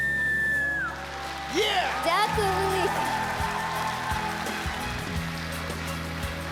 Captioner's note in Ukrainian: оплески